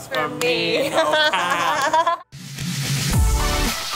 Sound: laugh; upbeat music

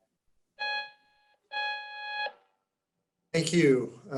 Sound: beep

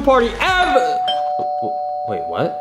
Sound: doorbell rings

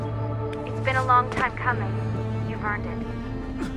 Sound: Lucy through radio

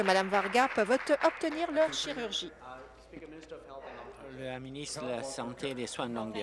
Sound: applause

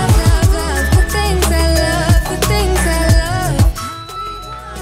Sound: alarm beeping

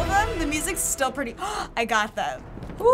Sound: gasps

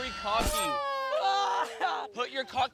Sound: shouting

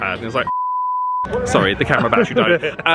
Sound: beeping

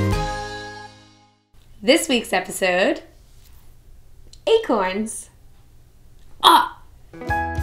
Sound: aah

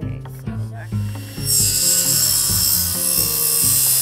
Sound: saw buzzing

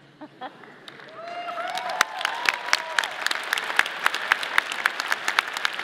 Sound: audience applauding

